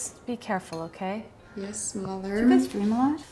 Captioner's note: Poppy, muffled